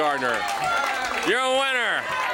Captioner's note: crowd cheering